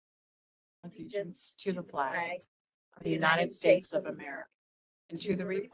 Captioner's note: group speaking together